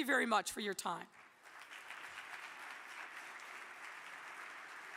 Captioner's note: audience clapping